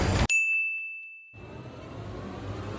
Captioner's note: ding